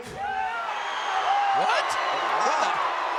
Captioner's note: audience cheering